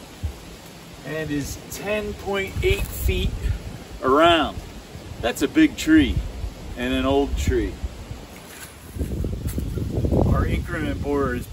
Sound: water rushing, tape measure whirring, leaves crunching; water rushing, wind noise

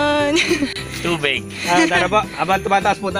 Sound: giggles

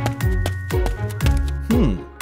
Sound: whimsical music; footsteps

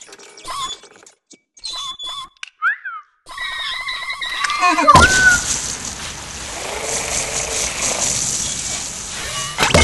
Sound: Sound effect of water blasing Wall-E off screen

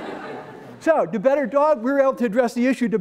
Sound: laughter

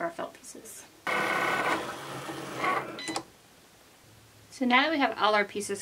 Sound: machine whirs and beeps

